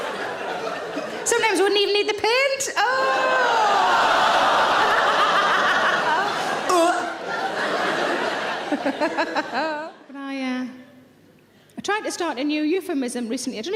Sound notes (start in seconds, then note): 2.9 audience laughing and groaning